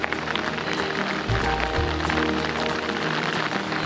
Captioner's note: sounds of hail hitting tents and rain jackets